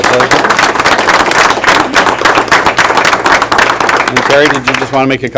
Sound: applause

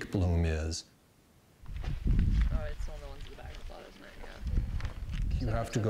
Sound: indistinct chatter

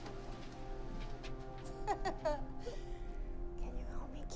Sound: mom laughing

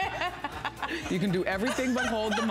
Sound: laughter

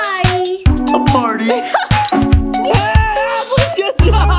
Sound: laughing

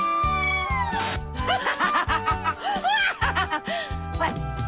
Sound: psycho laugh

